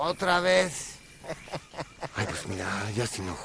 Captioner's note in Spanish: Risas